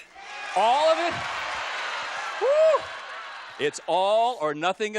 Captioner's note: audience yelling